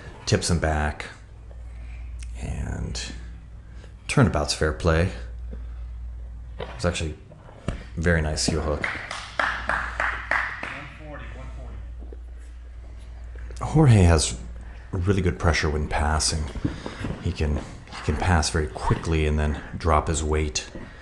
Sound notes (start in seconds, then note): 8.8 spectator applauds